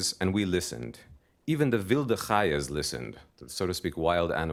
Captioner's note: non-english speech